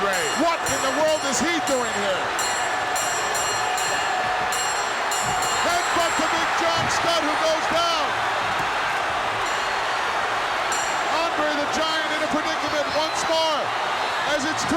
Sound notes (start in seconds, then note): 2.9 bell ringing; 2.9 crowd clamoring